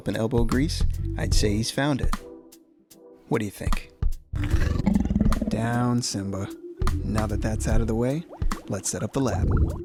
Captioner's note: roar